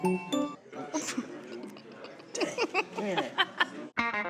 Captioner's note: laughter